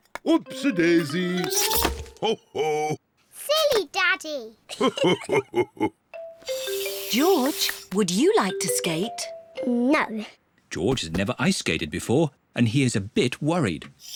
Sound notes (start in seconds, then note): 4.7 both laugh